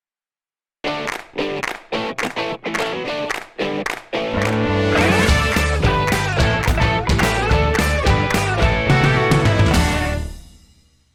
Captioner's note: claps